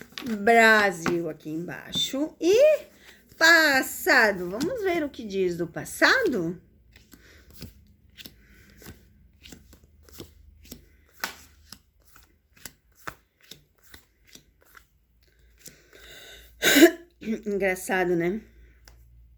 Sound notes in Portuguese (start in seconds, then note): 6.4 limpando a garganta